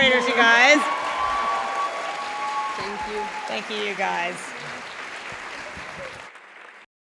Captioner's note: applause